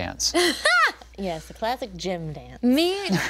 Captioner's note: group laughing